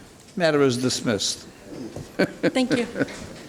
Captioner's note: judge laughs